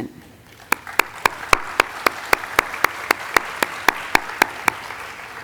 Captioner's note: audience applauding